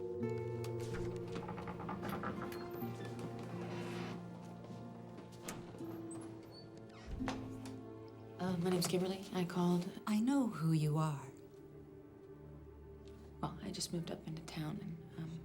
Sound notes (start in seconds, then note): 0.7 door creaks